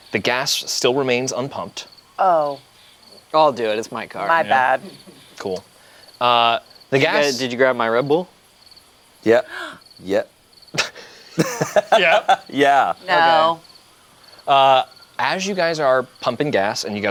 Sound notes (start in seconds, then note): 10.7 group laughs